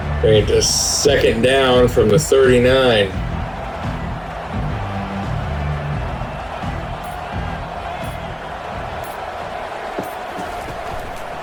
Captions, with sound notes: Right, just second down from the 39. [Crowd Noises]